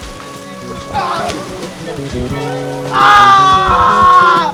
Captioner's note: yelling